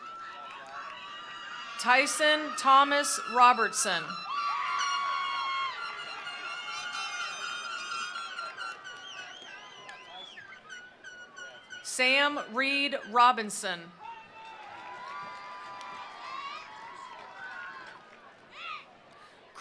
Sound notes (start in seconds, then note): 0.0 attendees applauding; 0.0 attendees cheering; 4.4 attendees cheering; 4.6 attendees applauding; 13.9 attendees cheering; 14.0 attendees applauding